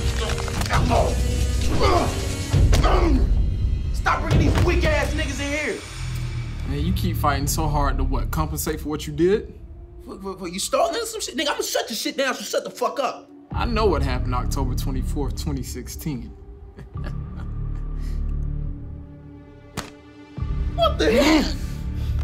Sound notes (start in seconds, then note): 9.9 stuttering; 16.6 laughing